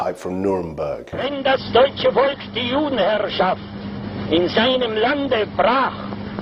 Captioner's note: Julius speaking foreign language